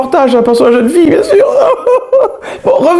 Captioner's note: crying